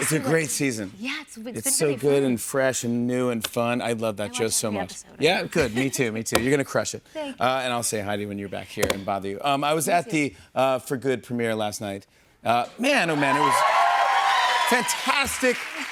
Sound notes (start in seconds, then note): 12.9 audience cheers